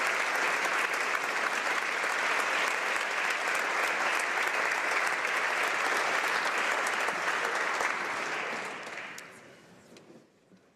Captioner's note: applause